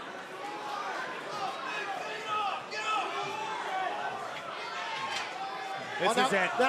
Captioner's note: crowd chatter